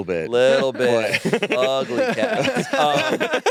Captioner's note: all laughing